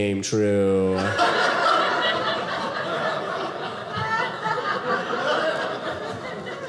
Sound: audience laughing

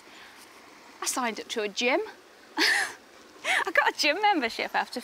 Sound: laughs

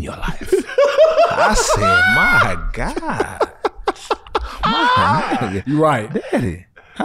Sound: laughs

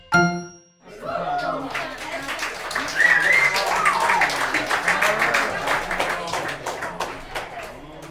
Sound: applause

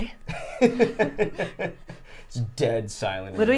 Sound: laughing

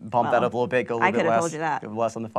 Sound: voice muffled

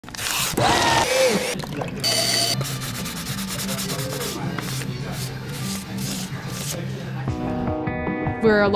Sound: machinery noises

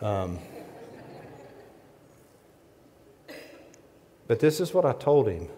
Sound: audience laughs

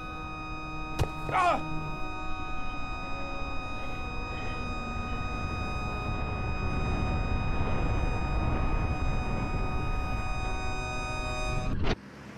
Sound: high pitch noise

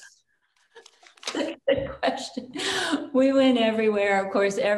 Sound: chuckles

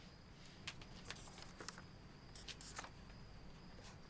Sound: scribbling on paper

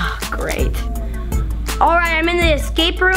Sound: suspenseful electronic music; sighing

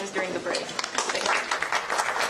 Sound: applause

